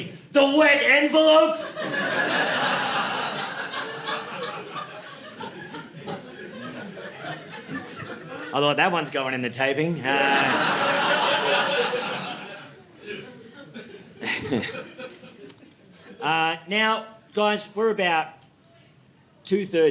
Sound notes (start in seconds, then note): 3.3 audience laughing; 9.9 audience laughing